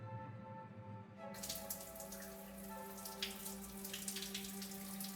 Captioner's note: sound of water in shower